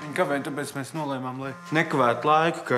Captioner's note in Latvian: telefona vibrozvans